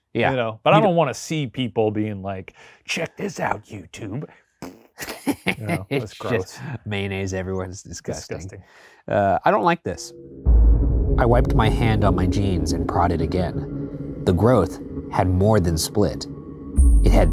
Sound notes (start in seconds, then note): 4.5 blowing raspberry; 4.7 laughing